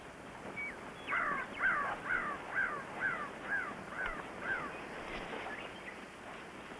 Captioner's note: birds chirping; bird squawking